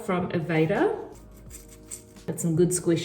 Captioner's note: hair squishing